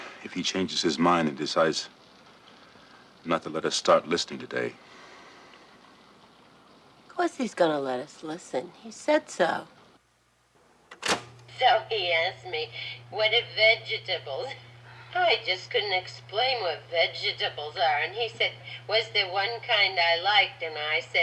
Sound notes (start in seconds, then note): 10.9 play button clicks